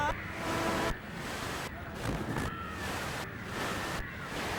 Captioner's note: pulsing continues